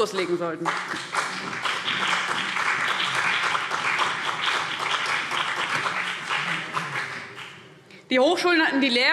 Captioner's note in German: Beifall CDU und BÜNDNIS 90/DIE GRÜNEN